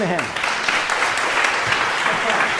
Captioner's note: applause